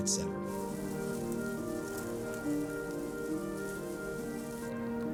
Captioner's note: grass rustling